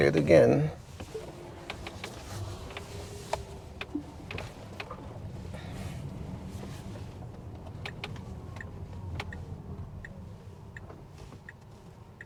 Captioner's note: click click click click